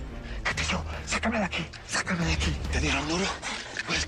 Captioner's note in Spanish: Murmurando